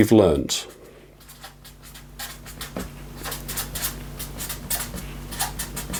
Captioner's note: marker pen scribbling